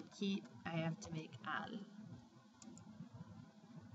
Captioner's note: spanish